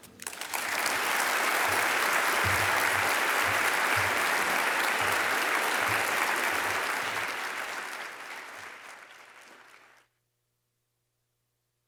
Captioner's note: applause